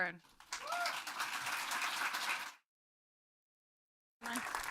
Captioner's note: audience applauding